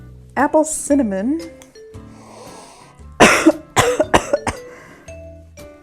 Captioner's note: snnnnniiiiiiiifffff, cough